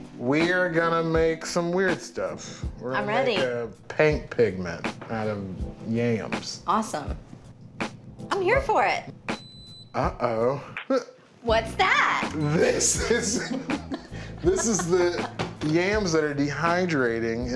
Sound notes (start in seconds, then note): 9.4 machine beeps; 12.5 laughs